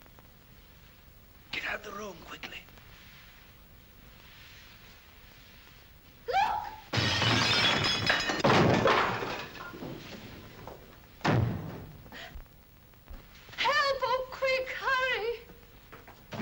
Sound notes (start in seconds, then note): 6.9 objects shatter; 6.9 chair crashes; 16.1 door closes